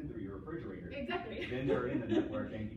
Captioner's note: laughs